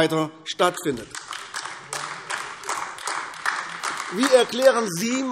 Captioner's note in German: Beifall AfD